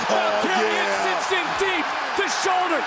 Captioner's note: crowd cheers